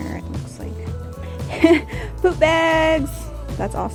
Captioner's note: laugh